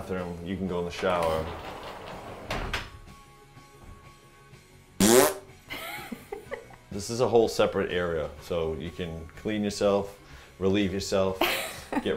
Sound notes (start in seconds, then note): 5.0 mimicking farting; 5.6 laughing